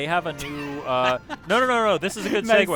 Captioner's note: laughter